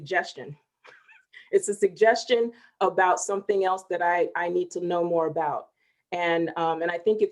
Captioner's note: chuckling